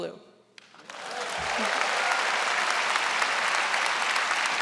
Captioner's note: audience applauds